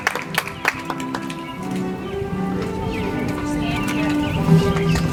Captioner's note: audience applauds